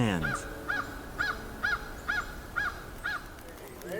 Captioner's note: bird call